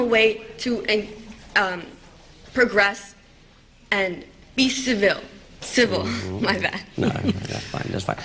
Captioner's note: laughter